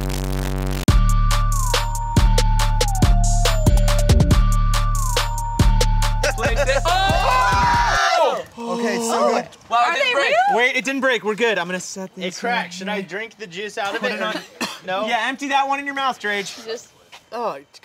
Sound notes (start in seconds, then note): 0.0 electronic music; 6.9 screaming and gasping